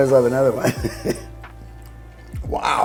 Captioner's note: laughs